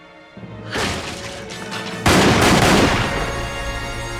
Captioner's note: door breaks open / gunshots